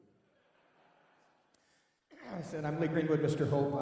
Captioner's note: laughing